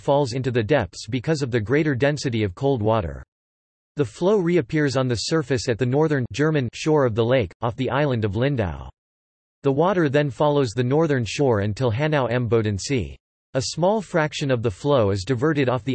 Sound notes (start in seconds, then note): 6.5 German